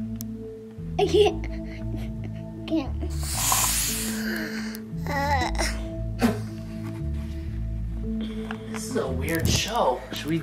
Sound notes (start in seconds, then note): 0.1 gentle music; 3.2 gasping